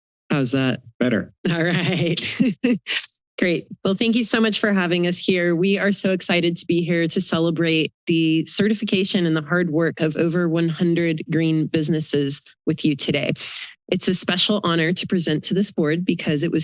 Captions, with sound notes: -How's that? -Better. -All right. [laughter]. -Great. Well, thank you so much for having us here. We are so excited to be here to celebrate the certification and the hard work of over one hundred green businesses with you today. It's a special honor to present to this Board because it